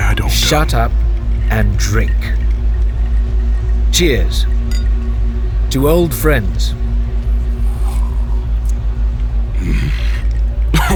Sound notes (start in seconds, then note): 7.3 Sounds of drinking, and Chartrulean wincing